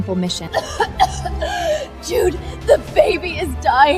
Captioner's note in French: tousse, tousse